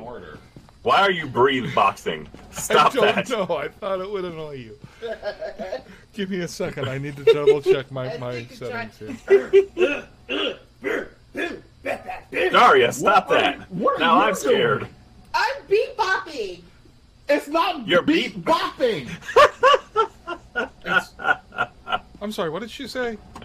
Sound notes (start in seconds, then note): 5.0 laughs; 10.8 more rhythmic grunting; 19.0 laughs